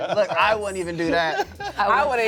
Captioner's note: laughs